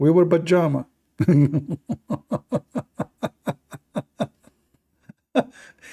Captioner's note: Ketawa